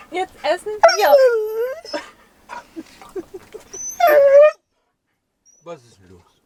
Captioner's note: Caesar is howling and talking